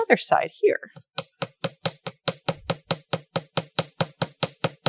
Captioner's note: light hammering